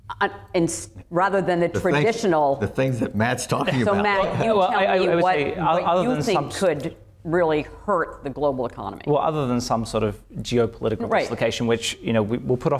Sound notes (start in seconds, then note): 3.6 laughs